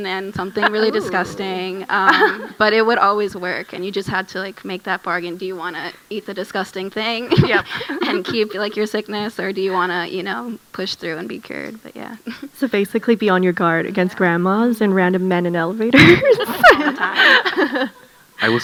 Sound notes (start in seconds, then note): 15.9 laughs; 16.0 audience laughing